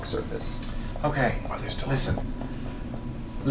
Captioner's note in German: flüstert